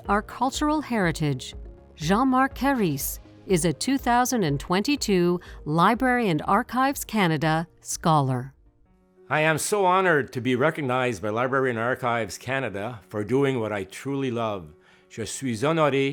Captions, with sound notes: Jean-Marc Carisse is a 2022 Library and Archives Canada Scholar. I am so honoured to be recognized by Library and Archives Canada for doing what I truly love. (Speaking French)